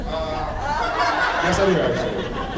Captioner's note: laughs